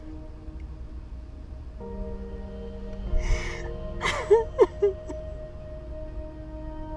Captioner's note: Abby sobbing continues; dramatic music continues